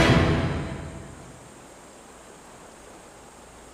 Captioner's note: bugs chirping